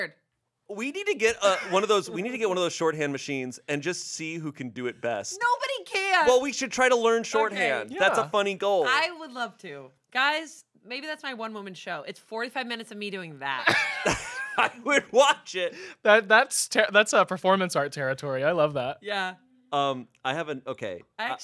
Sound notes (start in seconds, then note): 13.6 everyone laughs